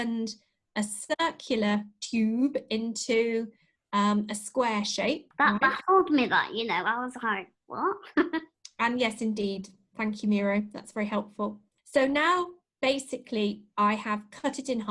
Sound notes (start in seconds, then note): 8.1 laughter